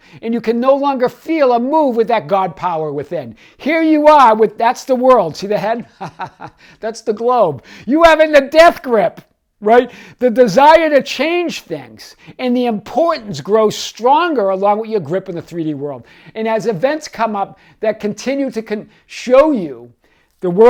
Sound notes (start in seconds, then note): 5.7 laughs